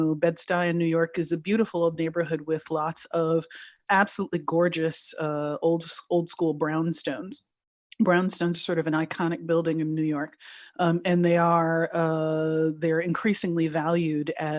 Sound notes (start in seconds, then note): none